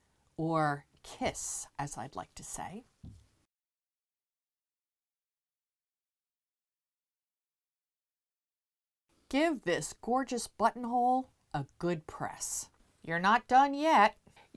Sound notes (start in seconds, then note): 3.4 no Sound Present